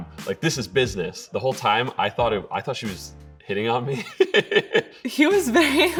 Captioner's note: laughing